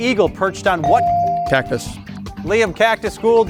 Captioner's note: bell ringing